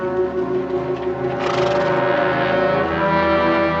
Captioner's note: horse huffing softly